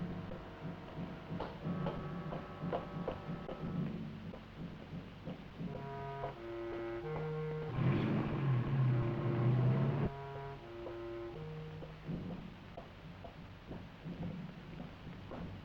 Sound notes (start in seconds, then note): none